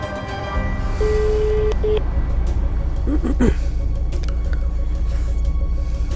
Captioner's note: dial tone